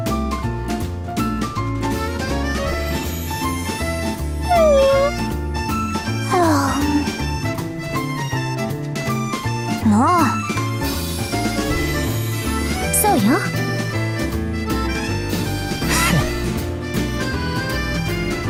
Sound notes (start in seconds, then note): 6.3 yawn